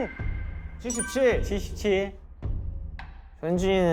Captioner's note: beginning heartbeat